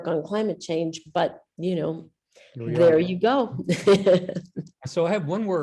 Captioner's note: laughs